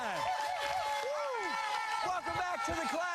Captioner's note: cheering